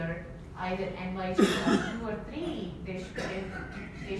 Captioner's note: audience member coughs